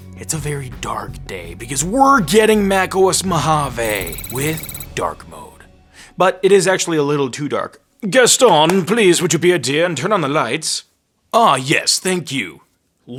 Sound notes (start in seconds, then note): 3.8 sci-fi typing; 8.5 claps